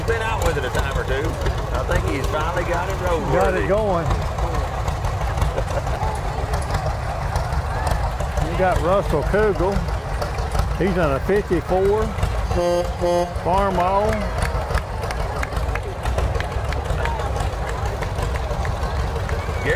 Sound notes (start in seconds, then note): 5.5 person laughs; 6.0 revving continues; 14.7 tractor honks; 16.5 revving continues